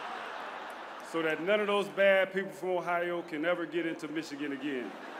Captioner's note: laughter